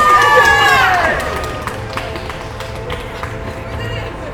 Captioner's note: cheering